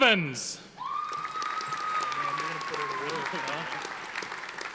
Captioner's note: audience applauding